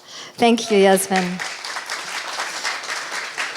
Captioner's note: audience clapping